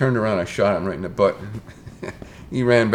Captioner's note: chuckles